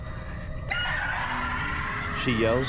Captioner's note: screaming